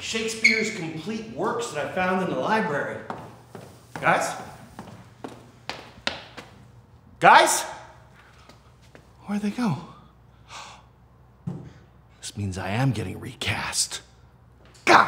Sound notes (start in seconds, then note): 10.7 gasps